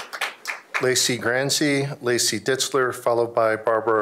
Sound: applause

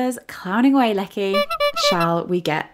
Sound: clown horn

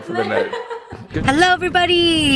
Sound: laughs

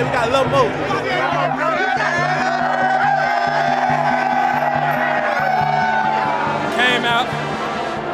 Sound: cheering

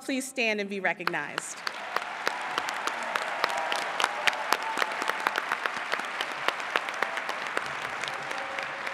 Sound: applause

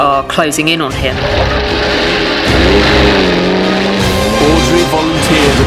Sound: suspenseful music; vehicles rumbling

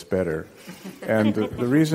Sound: group laughing

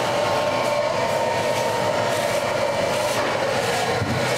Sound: hair dryers blows

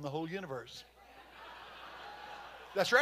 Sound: congregation laughing

